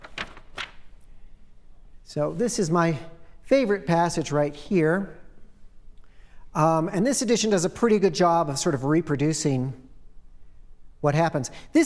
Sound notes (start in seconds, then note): 0.0 pages turning